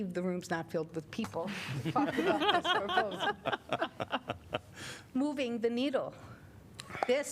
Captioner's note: laughter